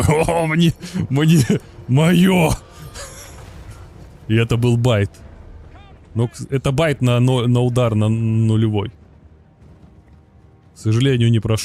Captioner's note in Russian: смех